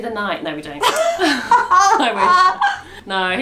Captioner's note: laughs